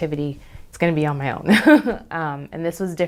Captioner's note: laughs